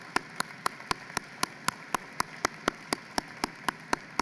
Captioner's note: applause